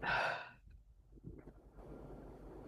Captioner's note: sigh